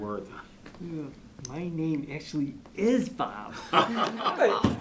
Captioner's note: group chuckles